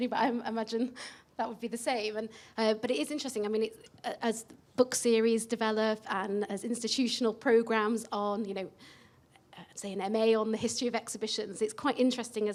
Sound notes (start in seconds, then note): none